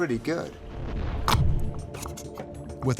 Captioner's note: gelatin squelching